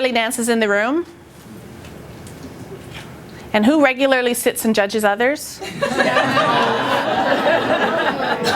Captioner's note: laughter